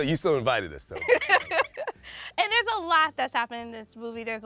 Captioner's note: laughs